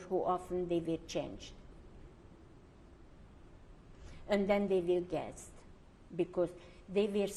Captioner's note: pauses for 3 seconds